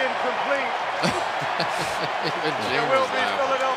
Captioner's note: laughs